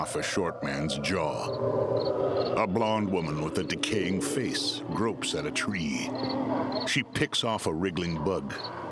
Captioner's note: groaning